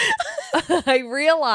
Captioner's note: laughing